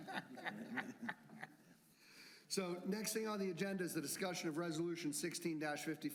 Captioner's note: laughter